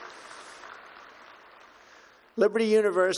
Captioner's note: applause